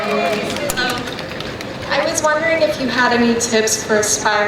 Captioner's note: voiceover